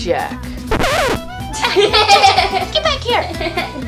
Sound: record scratches; giggling

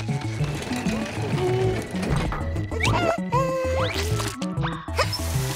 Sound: humming

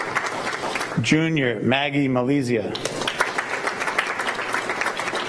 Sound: applause

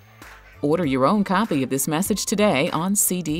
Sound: voiceover

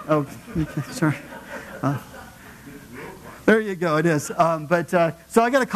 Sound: laugh

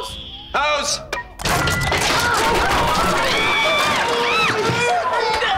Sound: screaming

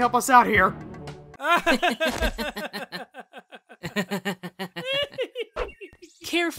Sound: laughter

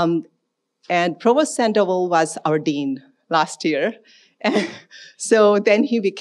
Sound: chuckles

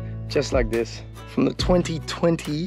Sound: none

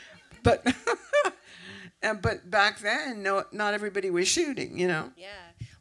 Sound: laughs

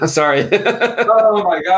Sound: laughing

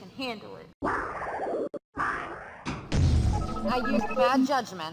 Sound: warbles scared and embarrassed

